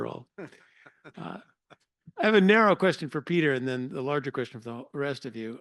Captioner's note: laugh